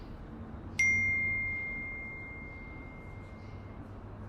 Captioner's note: notification bell dings